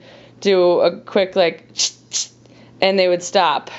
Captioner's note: imitates can hissing